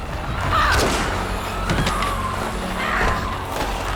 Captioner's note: gun shots